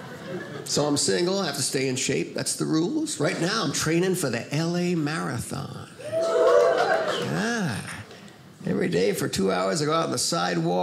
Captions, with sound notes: so I'm single. I have to stay in shape. That's the rules. Right now I'm training for the LA Marathon, (audience cheers) Yeah. Every day for two hours I go out on the sidewalk